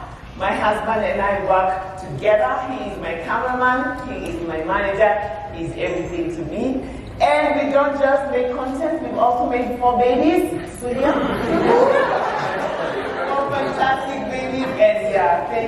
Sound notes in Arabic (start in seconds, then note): 11.0 ضحك